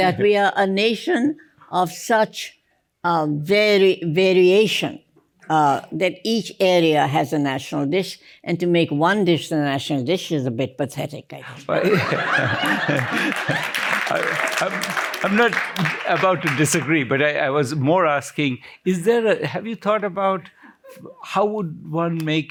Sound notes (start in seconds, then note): 11.7 laughter; 12.4 applause